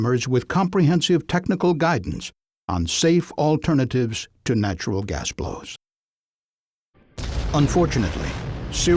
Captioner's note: sound of explosion